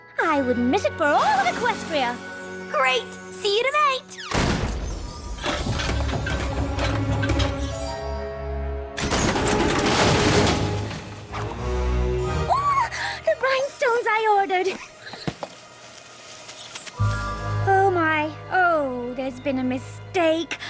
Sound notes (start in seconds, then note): 4.2 slam; 9.0 crash